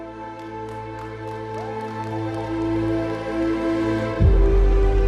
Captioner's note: applause